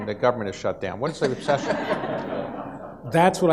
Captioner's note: audience laughs